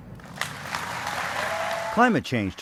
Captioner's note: applause